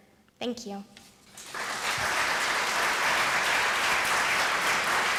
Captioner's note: applause